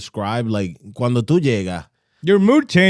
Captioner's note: speaking In Foreign Language